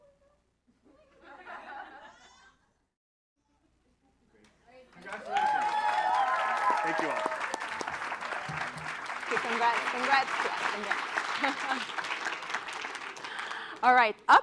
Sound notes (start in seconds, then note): 5.6 cheering; 11.4 chuckles